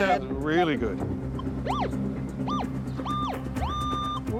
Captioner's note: detector squealing